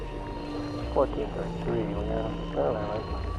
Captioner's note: background chatter